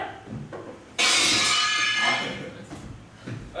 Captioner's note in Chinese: 玻璃破碎聲